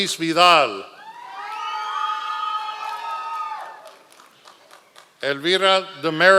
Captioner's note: members of the audience cheering